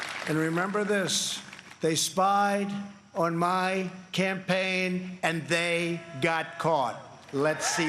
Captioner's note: applause